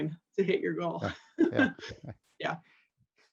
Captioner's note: laughter